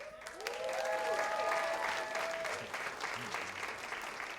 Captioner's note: cheers and applause